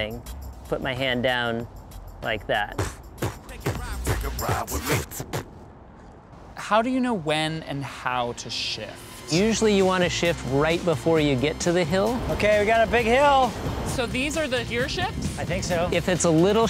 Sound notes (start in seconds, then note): 5.3 beatboxing